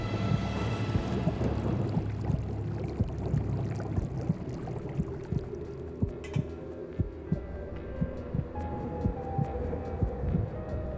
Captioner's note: bubbling water